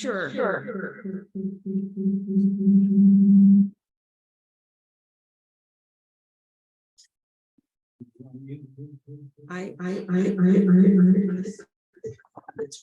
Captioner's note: electronic Echoing